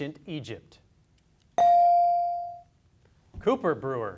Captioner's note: beep